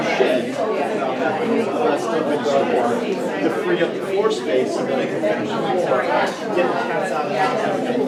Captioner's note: crowd murmering